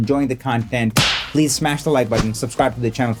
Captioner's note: icon slapping